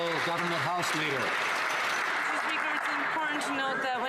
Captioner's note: some Applause